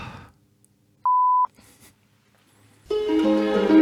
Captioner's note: beep; upbeat music